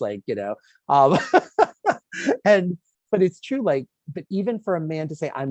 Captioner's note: laughing